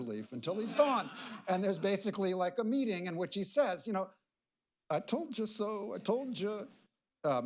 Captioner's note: laughter